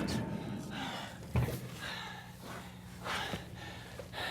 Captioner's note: panting